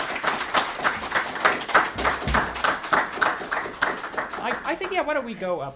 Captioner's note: audience applauding